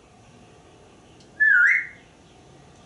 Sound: whistling

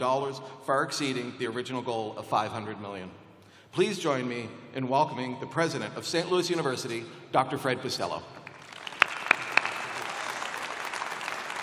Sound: applause

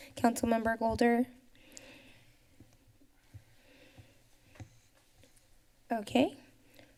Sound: pause

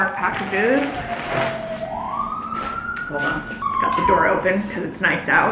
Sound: siren blares

